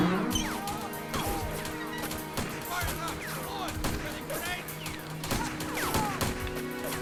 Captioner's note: door creaks